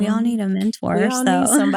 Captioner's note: laugh